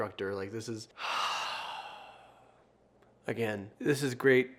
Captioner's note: sighs deeply